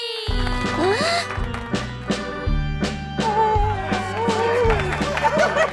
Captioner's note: circus music; gasps; clapping; laughing